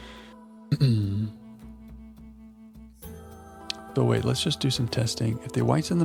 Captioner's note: clears throat